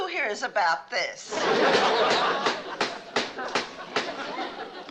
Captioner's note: gavel banging